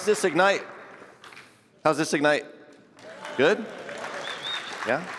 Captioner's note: applause